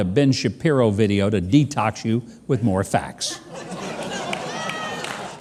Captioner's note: audience laughing